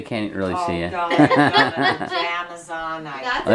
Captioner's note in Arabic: يضحك